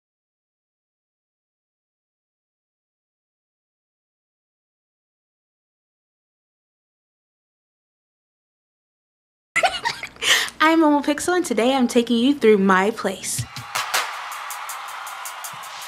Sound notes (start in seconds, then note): 9.6 laughing